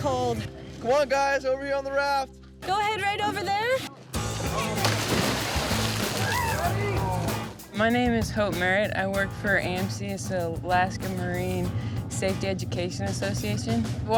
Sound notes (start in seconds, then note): 4.3 water splashing